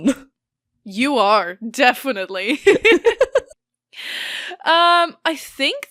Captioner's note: both laugh